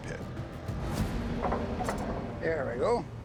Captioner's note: machine whirring